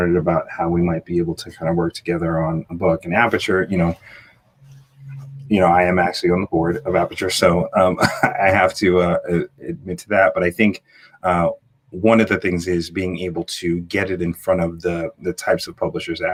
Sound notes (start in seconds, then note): 7.9 chuckle